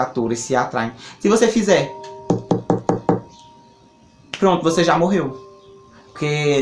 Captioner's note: 3 beats sound on a wooden table